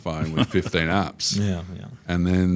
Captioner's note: laughter